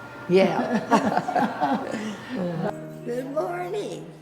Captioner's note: both laugh